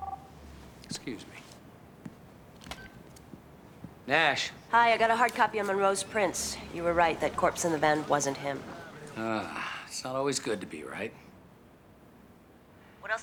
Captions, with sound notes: (phone ringing) Excuse me. (phone beeps on) Nash. Hi. I got a hard copy of Monroe's prints. You were right. That corpse in the van wasn't him. Ah, it's not always good to be right.